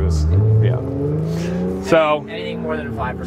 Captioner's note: car revs